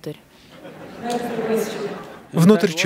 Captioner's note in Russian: Смех